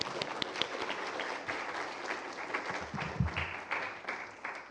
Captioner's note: applause